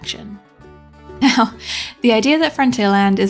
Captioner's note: laughs